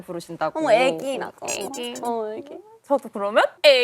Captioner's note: babbling